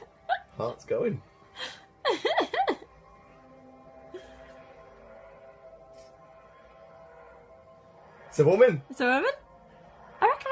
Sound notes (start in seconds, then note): 2.0 laughter; 5.0 Tardis wooshing